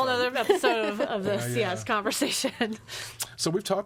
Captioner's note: laughs